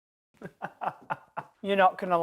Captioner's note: laughs